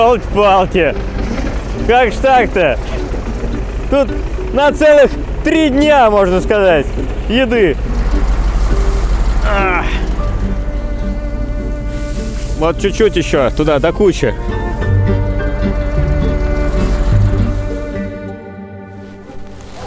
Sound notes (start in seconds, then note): 9.4 grunting